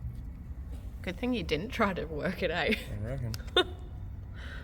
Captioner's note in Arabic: ههه